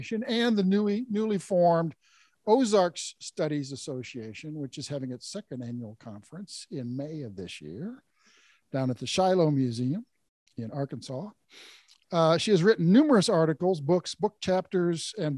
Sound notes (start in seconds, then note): none